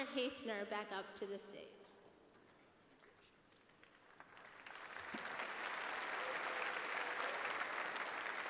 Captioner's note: applause